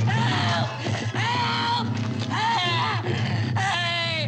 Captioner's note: Vanet yelling